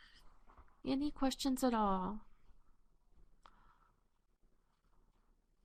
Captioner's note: pause